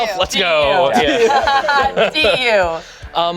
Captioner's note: group laughs